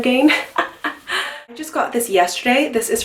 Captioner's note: laughs